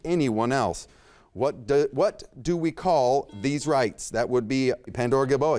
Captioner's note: buzzer beeps